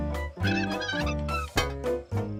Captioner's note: nail creaking; clanks